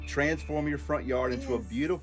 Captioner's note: group cheers